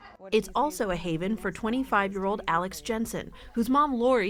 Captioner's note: voice-over